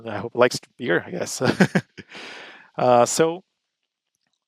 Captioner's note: laughs